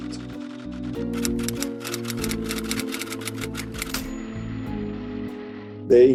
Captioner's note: typewriter keys clacking